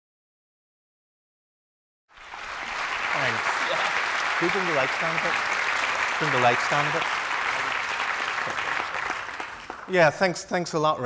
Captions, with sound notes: (audience applauds) Thanks. Yeah. Could you turn the lights down a bit? Turn the lights down a bit? Yeah, thanks, thanks a lot,